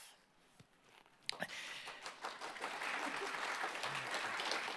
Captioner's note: applause